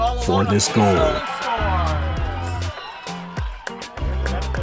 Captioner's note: crowd cheering